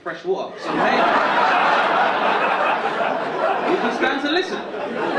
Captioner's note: audience laughing